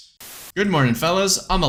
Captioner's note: static